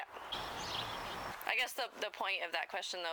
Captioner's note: birds chirping